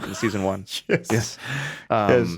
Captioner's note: laughs